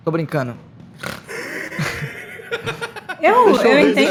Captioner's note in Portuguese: risadas